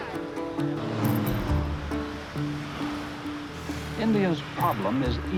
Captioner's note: people chattering, cars rushing